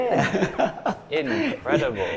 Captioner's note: laughs